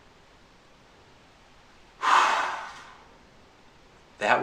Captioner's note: breath